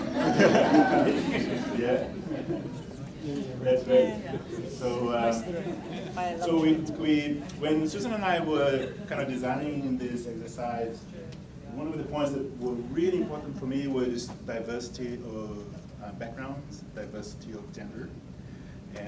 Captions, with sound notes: (group laughing) That's great! (group chatter) So when Susan and I were kinda designing this exercise, one of the points that were really working for me was diversity of backgrounds, diversity of gender,